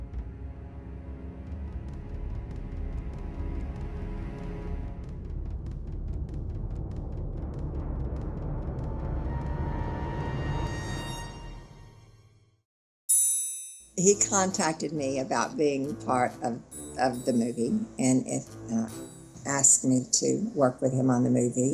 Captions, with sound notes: [tense dramatic music continues] [bell chimes] - He contacted me about being part of the movie and asked me to work with him on the movie,